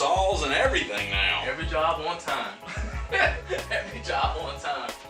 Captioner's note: laughs